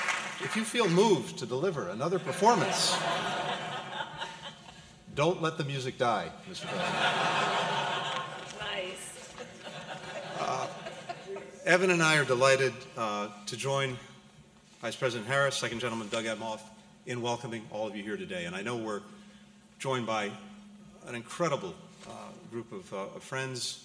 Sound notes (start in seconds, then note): 2.2 laughter; 9.2 laughter